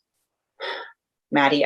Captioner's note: sighs